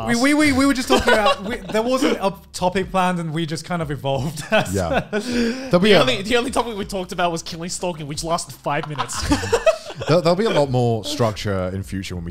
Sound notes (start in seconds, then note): 4.2 laughs; 8.8 laughing